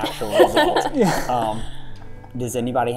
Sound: laughter

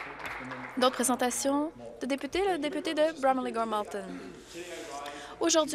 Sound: some Applause

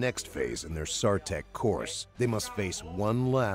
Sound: voiceover

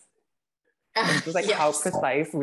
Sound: laugh

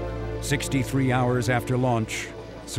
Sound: voiceover

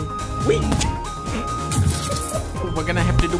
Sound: laughs

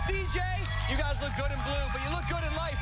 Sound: cheers and applause

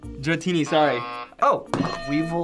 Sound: buzzer

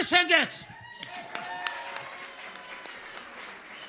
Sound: audience cheering

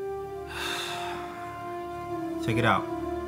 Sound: sighing

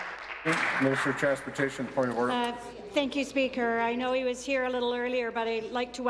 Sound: applause

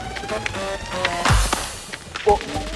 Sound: slap

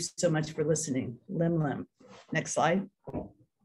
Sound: non-english speech

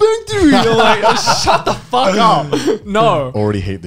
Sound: both laughs

